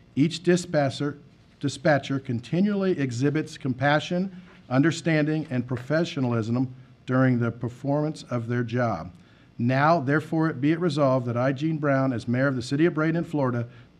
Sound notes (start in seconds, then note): none